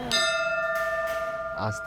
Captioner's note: bell ringing